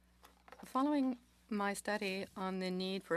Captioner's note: speaking French